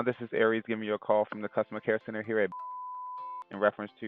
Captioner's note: beep